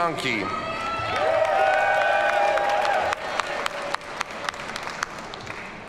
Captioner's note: audience cheers and applauds